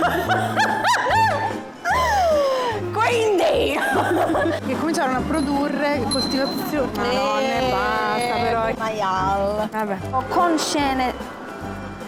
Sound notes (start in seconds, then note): 0.0 laughing out loud; 6.0 bicycle bell ringing